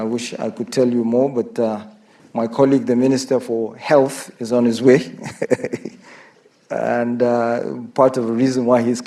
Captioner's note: laughs